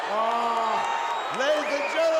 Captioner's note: crowd cheering